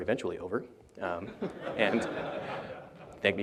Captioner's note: laughter